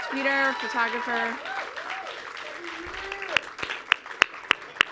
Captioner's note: clapping loudly